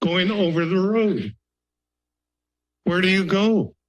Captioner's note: pause